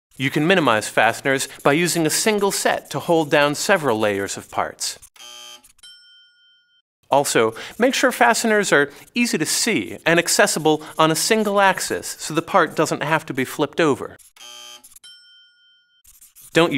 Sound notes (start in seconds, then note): 5.2 buzzer; 5.8 dings; 14.3 buzzer; 15.0 dings